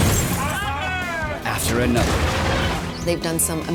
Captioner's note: glass breaking; whooping